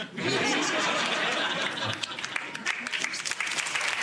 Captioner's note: audience laughs; audience claps